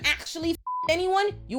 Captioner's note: beep